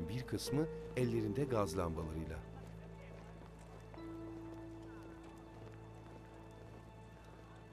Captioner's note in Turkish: Ayak sesleri